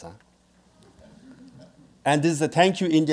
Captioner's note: audience laughing